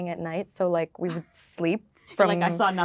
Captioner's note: laughing